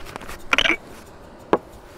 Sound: glass clinking; glass thuds

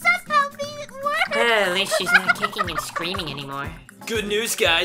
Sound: Glassy laughing hysterically

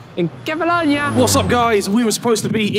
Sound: aeroplane engine roaring

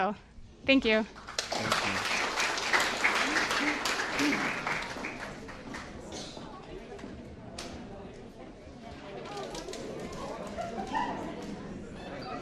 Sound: applause

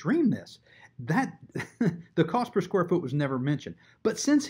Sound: chuckles

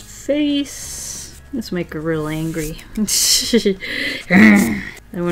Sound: laughs

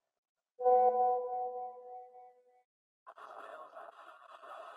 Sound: message tone rings

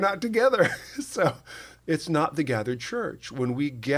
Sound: chuckle

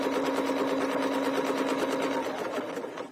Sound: sewing machine whirring

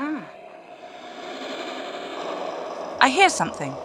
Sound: flying enemy incoming noise

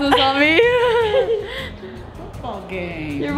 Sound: laughing

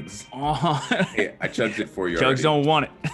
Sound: laugh

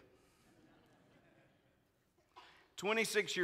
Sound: congregants laughing

